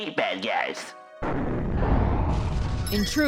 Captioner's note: explosion